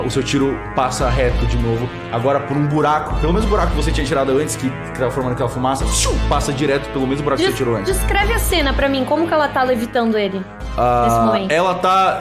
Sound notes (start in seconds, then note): 5.8 woosh